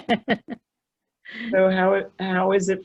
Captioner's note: audible laughter